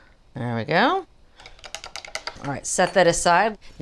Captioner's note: fork scraping